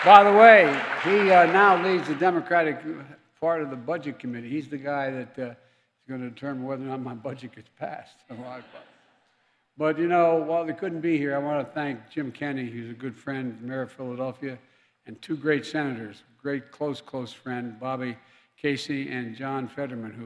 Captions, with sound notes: By the way, he now leads the Democratic part of the Budget Committee. He's the guy that is going to determine whether or not my budget gets passed if I -- (laughs) -- But, you know, while they couldn't be here, I want to thank Jim Kenney, who's a good friend, the mayor of Philadelphia, and two great senators -- a great close, close friend, Bobby Casey, and John Fetterman,